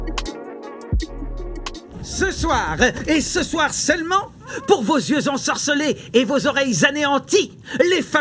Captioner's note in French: Voix de gobelin